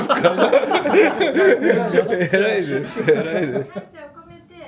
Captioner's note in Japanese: 笑い声